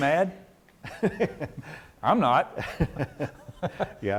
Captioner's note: laughs